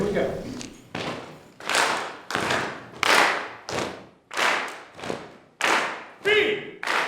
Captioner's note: rhythmically clapping of hands and patting of legs; singing